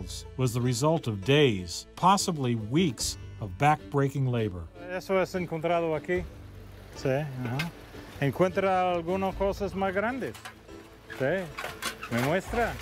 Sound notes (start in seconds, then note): 5.0 speaking Spanish